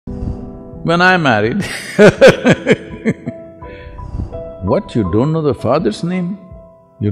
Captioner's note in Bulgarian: Смее се